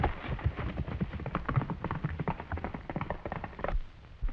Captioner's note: hooves clattering